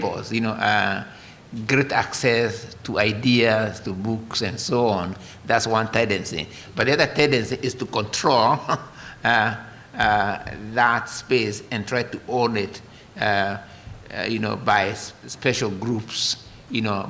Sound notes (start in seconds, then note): 8.6 laughter